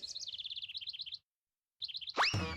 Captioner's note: twittering